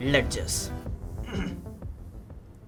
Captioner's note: coughs